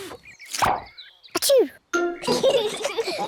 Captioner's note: sneezes; both giggle